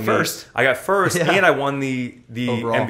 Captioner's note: laughs